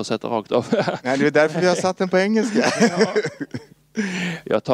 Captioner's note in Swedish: Skrattar